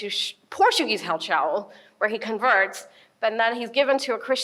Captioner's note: speaks in foreign language